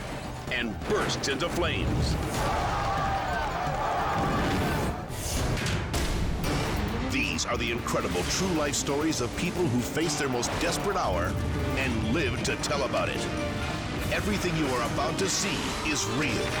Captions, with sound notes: and bursts into flames. (spectators screaming) These are the incredible true life stories of people who face their most desperate hour and live to tell about it. Everything you are about to see is real.